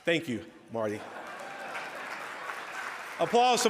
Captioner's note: audience laughs